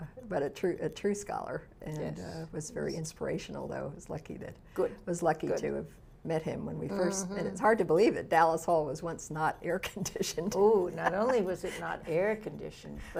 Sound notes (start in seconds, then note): 10.5 laughs